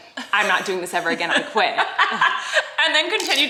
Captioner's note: laughing